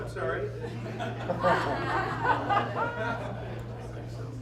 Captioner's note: laughter